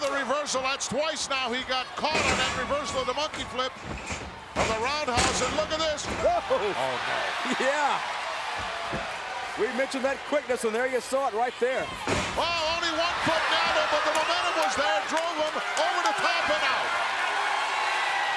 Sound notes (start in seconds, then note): 6.4 commentators exclaim